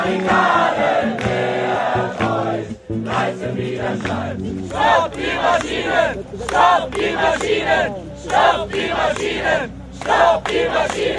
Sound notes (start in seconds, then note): 5.0 people chanting "Stop the machines!"